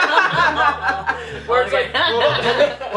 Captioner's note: laughter